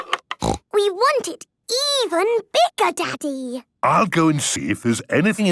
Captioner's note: snorting